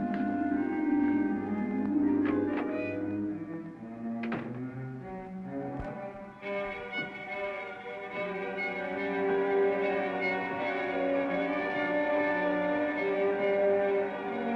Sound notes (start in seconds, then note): 1.8 door clicks; 1.9 dramatic music